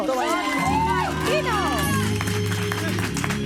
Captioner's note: screams